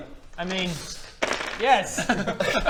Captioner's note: dice clattering